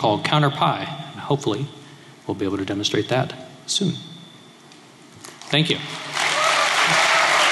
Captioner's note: applause